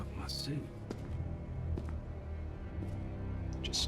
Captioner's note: footsteps